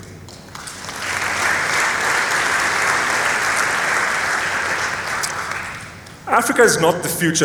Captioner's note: applause